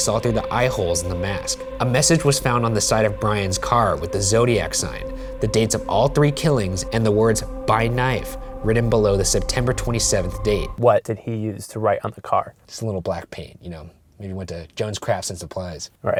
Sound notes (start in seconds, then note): 11.1 voiceover